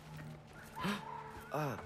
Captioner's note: gasp